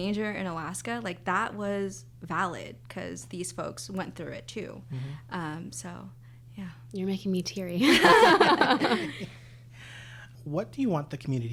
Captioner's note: laughter